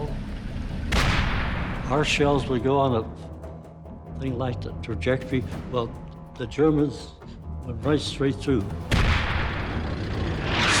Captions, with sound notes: (tank turret firing) - Our shells would go on a thing like the trajectory. Well, the Germans went right straight through. (tank turret firing)